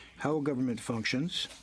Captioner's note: speaking in french